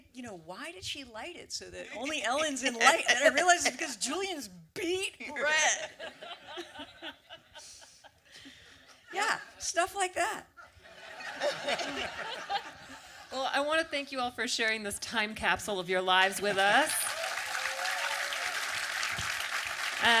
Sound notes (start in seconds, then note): 6.0 audience laughter; 11.5 audience applause; 16.4 audience cheer and applause